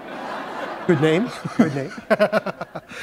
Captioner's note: laughter